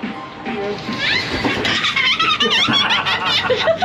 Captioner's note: all laughing